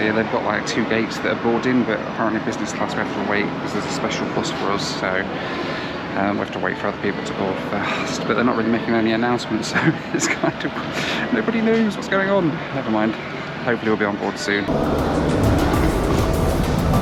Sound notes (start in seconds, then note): 9.7 laughs